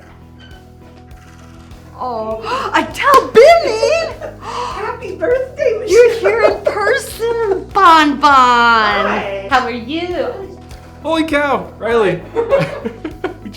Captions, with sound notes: - (gasps) Atol Binney! - Happy Birthday Michele. - You're here in person! - Bon Bon! - Hi. - How are you? - Holy cow, Riley. - Hi (giggles)